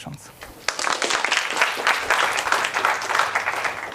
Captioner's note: applause